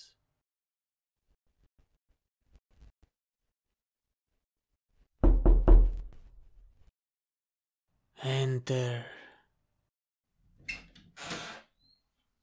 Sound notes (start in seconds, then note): 5.2 door knocking; 10.6 door opening